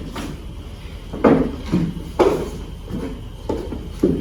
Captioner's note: footsteps